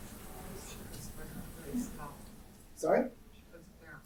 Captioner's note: student faintly speaking